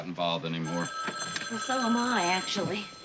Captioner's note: phone rings